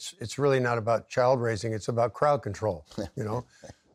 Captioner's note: chuckles